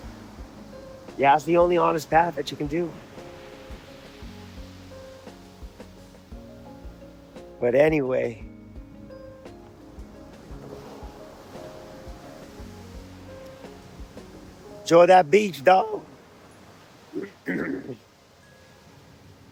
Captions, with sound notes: Yeah, that's the only honest path that you can do. (Water Rushing) But anyway. (Water Rushing) Enjoy that beach, dawg.